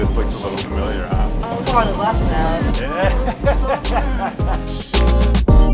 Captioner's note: guffawing